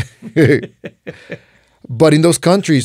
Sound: laughs

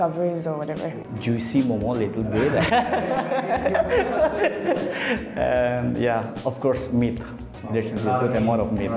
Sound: laughs

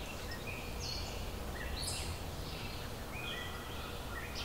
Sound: birds calling

